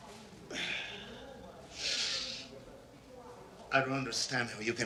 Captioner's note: breathing heavily